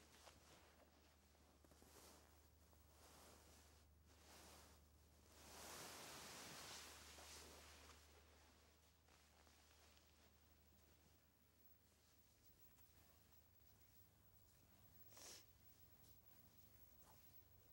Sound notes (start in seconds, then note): none